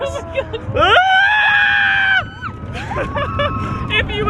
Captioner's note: screaming; laughing